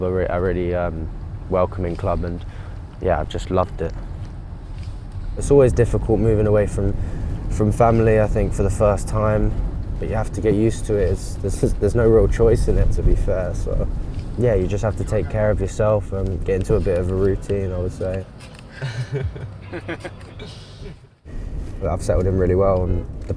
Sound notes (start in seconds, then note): 18.4 laughs